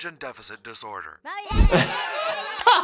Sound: cartoon children noisy chattering; amused chuckling

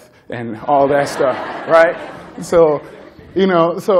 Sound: laughter

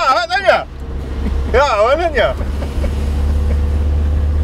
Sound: they laugh

